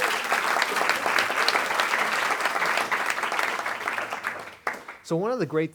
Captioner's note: audience applauds